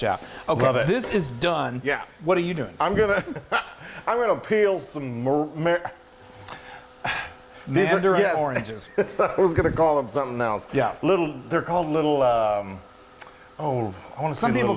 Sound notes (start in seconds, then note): 2.9 chuckling; 7.0 exasperated sighing; 8.4 chuckling